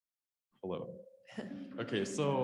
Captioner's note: audience laughs